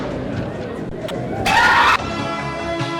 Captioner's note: person screams; dramatic inspiring music